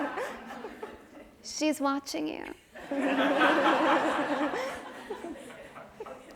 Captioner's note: audience laughs; audience laughs